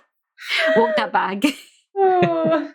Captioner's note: laughs